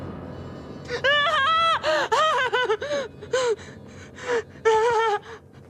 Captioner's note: dramatic music; panicked shouting